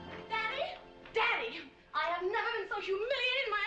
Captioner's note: none